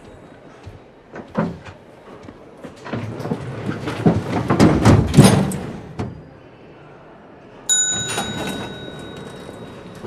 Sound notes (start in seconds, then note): 2.3 door clanking; 7.7 bell dings